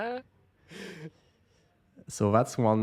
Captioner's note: laughing